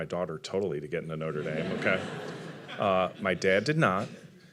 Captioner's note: audience laughing